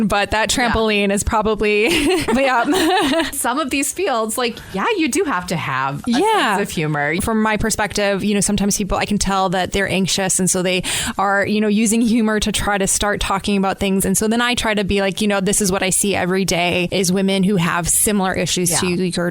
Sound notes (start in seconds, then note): 1.8 laughter